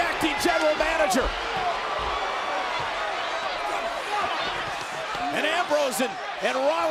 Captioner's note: applause